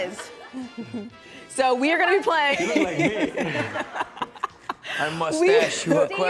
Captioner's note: laughs